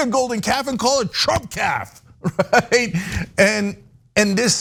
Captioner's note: laugh